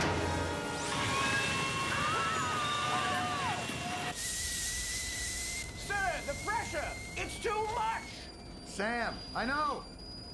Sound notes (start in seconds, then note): 4.0 high-pitched hissing